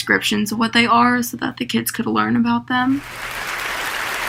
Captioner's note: applause